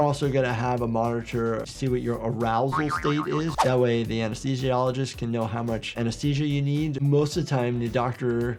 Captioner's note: none